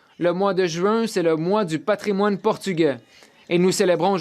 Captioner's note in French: voix de l'interprète